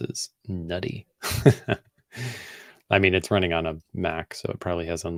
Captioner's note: laughs